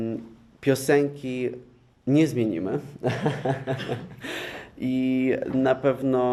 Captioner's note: laugh